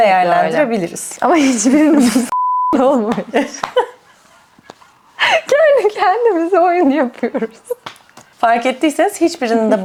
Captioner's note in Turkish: kahkaha